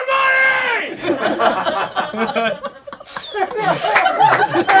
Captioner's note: crowd laughing